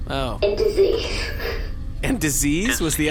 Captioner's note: almost laughing but not quite